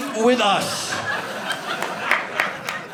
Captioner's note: audience laughing